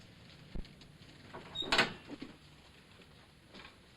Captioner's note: door opens